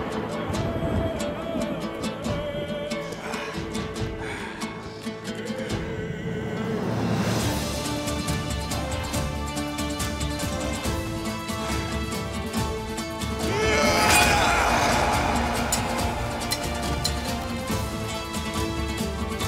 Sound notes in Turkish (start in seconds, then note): 13.2 Dövüşme sesleri; 13.8 Kılıç sesleri; 19.2 İnilti sesi